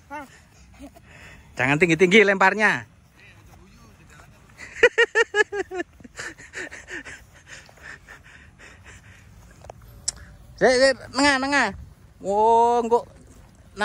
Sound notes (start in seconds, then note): 4.6 laughs